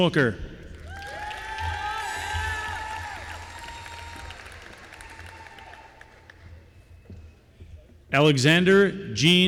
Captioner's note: applause